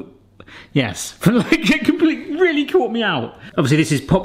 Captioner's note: laughing